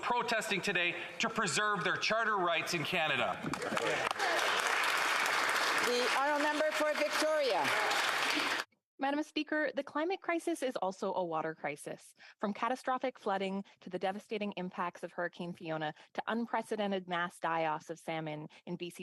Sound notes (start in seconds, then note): 6.6 some Applause